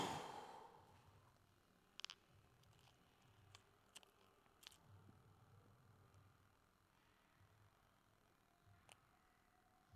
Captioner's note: exhales